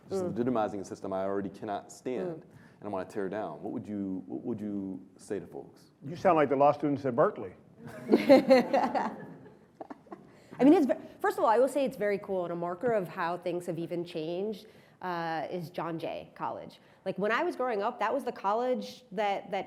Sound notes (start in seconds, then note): 7.8 laughter